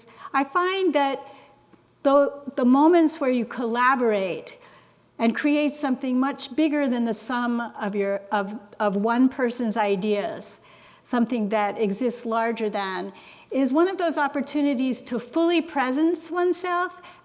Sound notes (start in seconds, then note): none